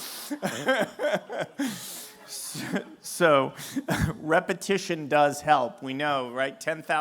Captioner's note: laughter